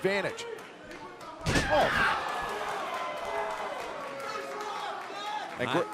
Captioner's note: crowd cheering